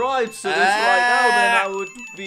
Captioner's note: exclaims